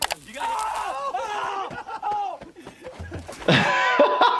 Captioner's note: Bam screams in pain; doctor laughs